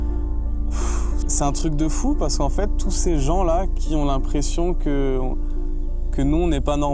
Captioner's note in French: il soupire